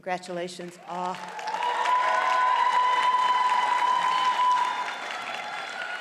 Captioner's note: audience cheers and applauds